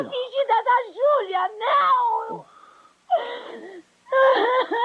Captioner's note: sobbing